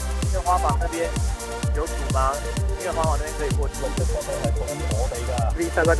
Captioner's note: upbeat music; speaking in another language; voiceover